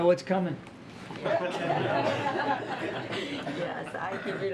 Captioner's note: laughter